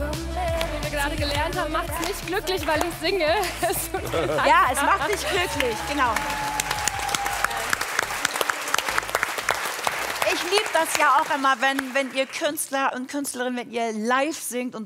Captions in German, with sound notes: Wie wir gerade gelernt haben, macht es nicht glücklich, weil ich singe. *Applaus* Ich liebe das, wenn ihr Künstler und Künstlerinnen live singt.